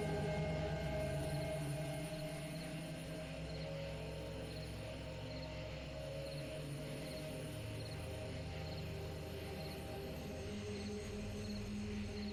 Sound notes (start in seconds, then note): 0.1 insects chirp